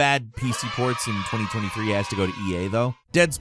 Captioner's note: cheering